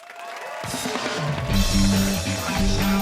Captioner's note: cheers and applause